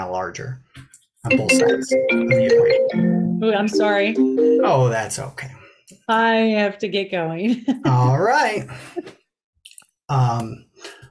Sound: phone ringing

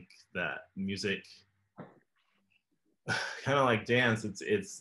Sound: laughs

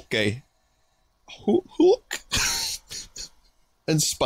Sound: laughs

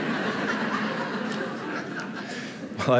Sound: laughter

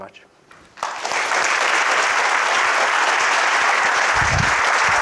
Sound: group applauds

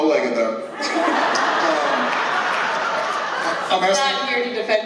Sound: laughter

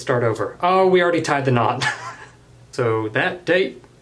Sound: laughs

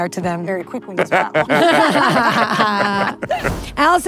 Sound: all laughing

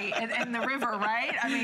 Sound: laughter

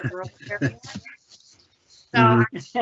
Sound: laughter

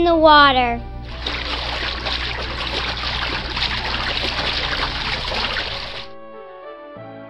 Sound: girls splashing water from the swimming pool

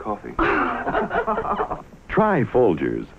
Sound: laughing

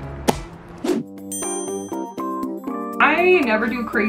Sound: soft music; dinging

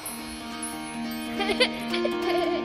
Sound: giggles

